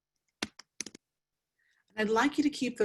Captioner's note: keyboard clanking